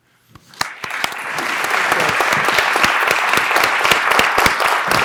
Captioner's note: audience applauding